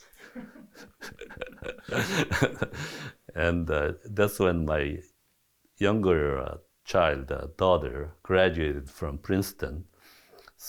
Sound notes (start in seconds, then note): 0.1 chuckles; 0.2 laughs